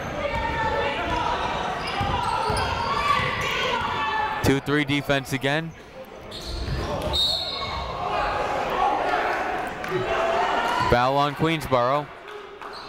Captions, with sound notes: (people shouting in the crowd) Two three defense again. (whistle tweeting) (people shouting in the crowd) Foul on Queensborough.